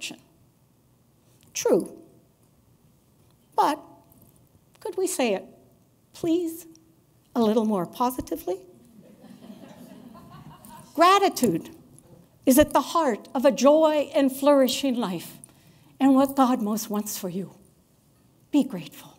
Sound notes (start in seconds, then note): 8.9 laughter